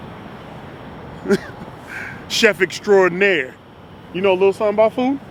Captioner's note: chuckling